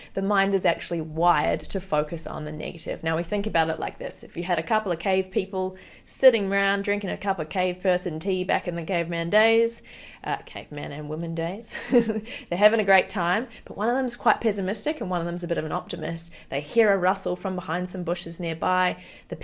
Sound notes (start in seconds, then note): 11.7 chuckles